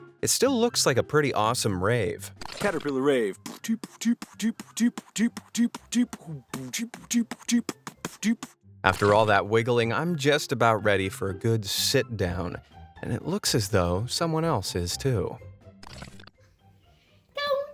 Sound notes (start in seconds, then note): 3.2 man beatboxes